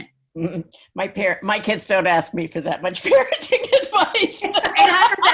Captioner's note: laughs